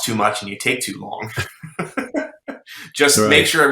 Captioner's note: laughing